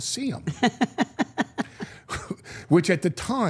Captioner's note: Steph laughs